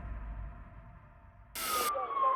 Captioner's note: sirens